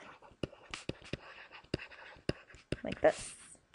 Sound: scribbling

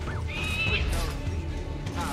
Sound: Ezio whistles; eagle screech; hidden blade stabbing sound

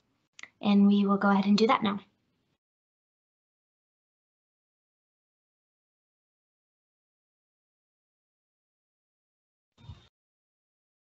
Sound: pause

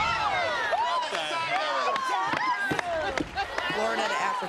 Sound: laughter and chatter

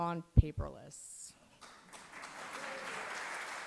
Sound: applause

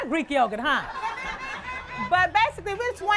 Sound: laughter

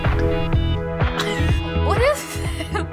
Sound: chuckling

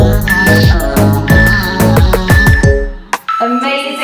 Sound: alarm beeping

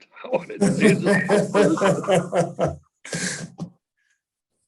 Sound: all laughing

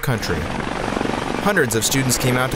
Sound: aircraft engine roaring

